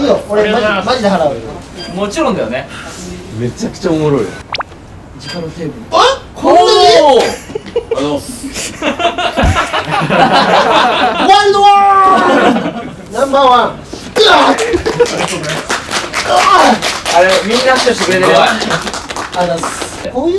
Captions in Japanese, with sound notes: スタッフ：ありがとうございます もちろんだよね？ めちゃくちゃ おもろい あっ！？ こんなに？ おぉ～！ （スタッフ 笑い） あざます （笑い） NO. 1～！ ナンバーワン うわぁっ！ （拍手） スタッフ：ありがとうございます うわぁっ ありがとう みんな拍手してくれてるよ すごい あざす